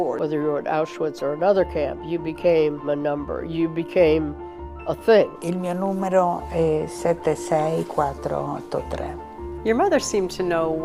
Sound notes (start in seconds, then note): 5.5 speaking in foreign language